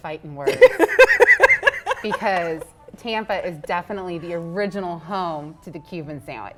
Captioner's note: laughter